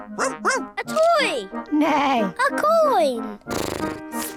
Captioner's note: barks; snorts; neighs